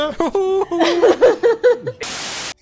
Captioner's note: laughs